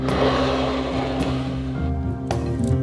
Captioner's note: plate sliding